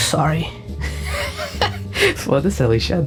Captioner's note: Plushtrap laughs at his attempts to sound convincing